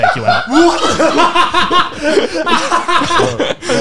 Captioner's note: laughing